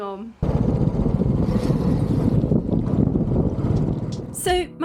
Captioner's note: motorbike engine giving way to chill music